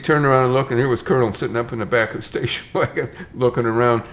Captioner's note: chuckles